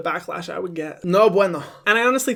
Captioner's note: speaking in foreign language